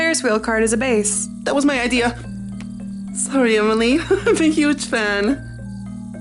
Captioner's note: giggles